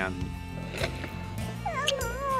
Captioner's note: smooch